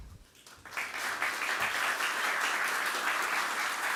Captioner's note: applause